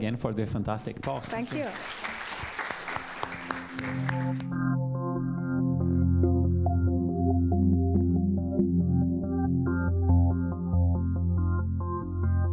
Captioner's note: applause